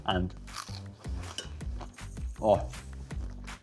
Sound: potato crunches

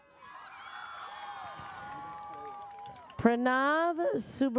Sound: audience cheers

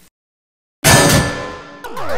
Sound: bang

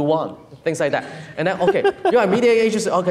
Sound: laughs

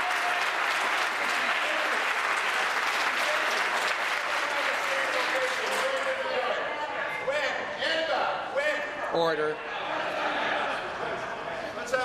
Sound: applause

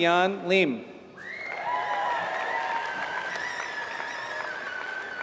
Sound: applause

